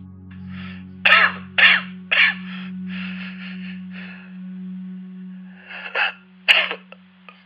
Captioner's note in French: Importante quinte de toux